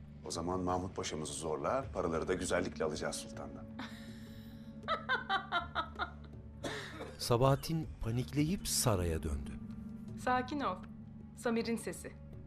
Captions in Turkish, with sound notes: O zaman Mahmut Paşa'mızı zorla, paraları da güzellikle alacağız sultandın. (Gülme sesi) (Öksürük sesi) Sakin ol, Samir'in sesi.